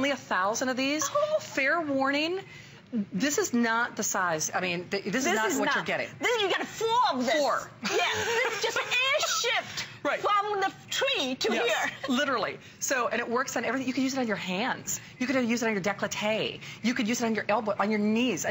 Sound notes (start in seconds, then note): 7.8 laughter